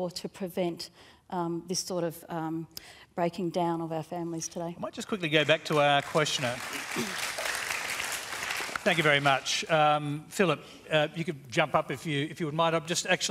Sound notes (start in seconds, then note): 7.0 applause